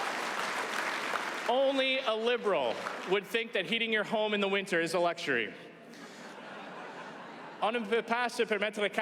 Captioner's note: applause